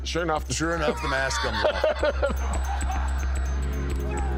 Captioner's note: Mark laughs